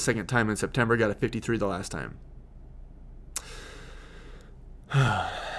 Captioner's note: sighs